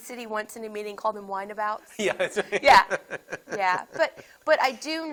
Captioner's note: laughs